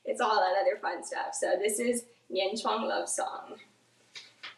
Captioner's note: speaks in foreign language